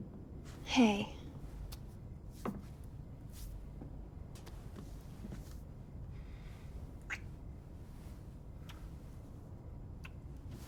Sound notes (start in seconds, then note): none